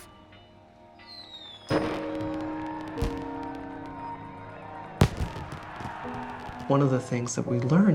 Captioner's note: fireworks explode, crowd cheers